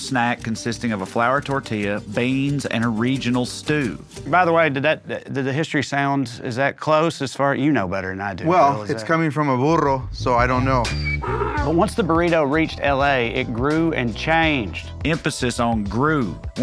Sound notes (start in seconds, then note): 11.2 graphic groans